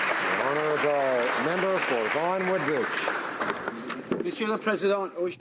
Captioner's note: applause